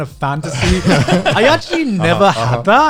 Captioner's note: guys laughing